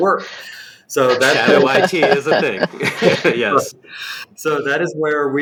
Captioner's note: laughter